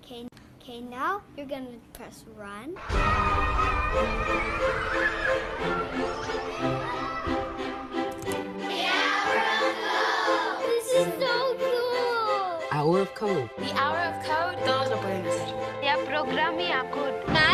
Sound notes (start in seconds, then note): 2.8 children cheering; 3.0 upbeat music; 14.7 speaking in foreign language